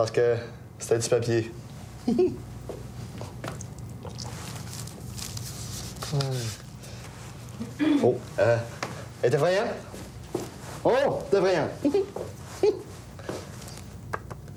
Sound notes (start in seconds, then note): 2.0 Il glousse